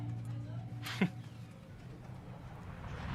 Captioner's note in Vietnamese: cười khẩy